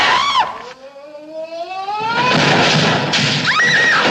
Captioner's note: yells; crashes; screams